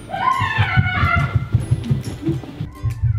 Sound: yelling

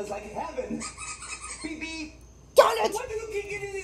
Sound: sqeaking

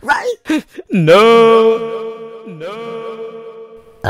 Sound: echoes

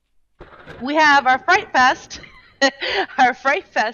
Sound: laughing

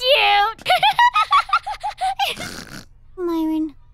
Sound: snorts

